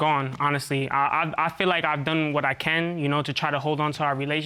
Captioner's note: stuttering